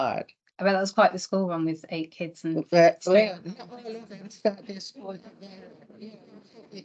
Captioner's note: panel and audience laughs